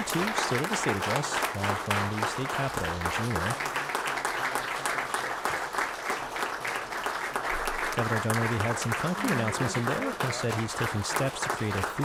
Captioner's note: applause